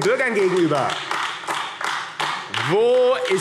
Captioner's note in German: Beifall AfD